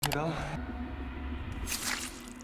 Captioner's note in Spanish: Clic; silbido mientras se retira el cuchillo